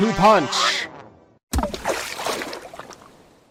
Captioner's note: splash